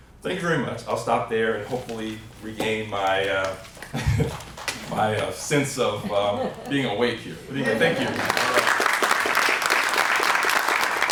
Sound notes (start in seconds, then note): 8.0 applause